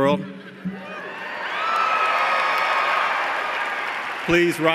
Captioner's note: cheers and applause